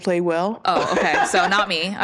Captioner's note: laughs